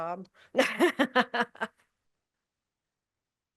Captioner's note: laughs